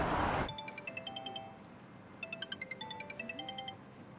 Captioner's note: traffic whooshing; phone ringing